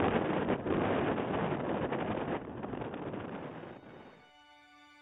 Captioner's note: wind continues rustling; somber music